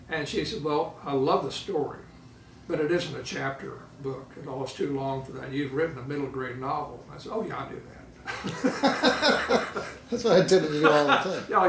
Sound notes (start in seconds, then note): 8.3 laughing